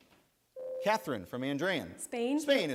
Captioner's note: bell rings